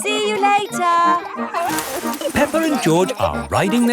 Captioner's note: peppa and george laughing